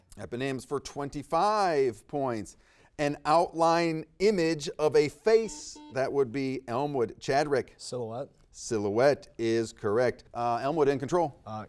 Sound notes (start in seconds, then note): 5.4 buzzer dings